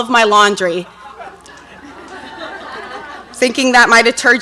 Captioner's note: audience laughs